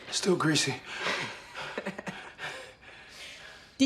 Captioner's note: leroy chuckles; laughs